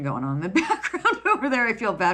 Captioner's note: laughs